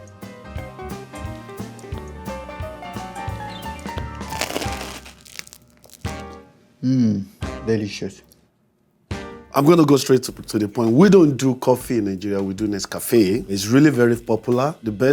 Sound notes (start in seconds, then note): 0.0 light cheerful music; 4.0 baguette crunching